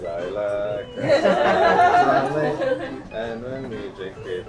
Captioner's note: Cheapo team laughing